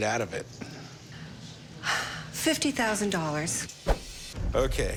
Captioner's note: sigh